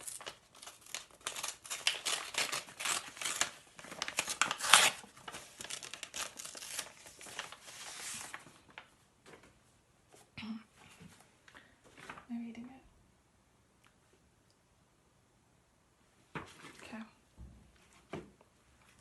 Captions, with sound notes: (paper tearing) (clearing throat) I'm reading it. Okay.